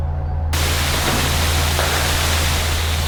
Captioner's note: loud radio static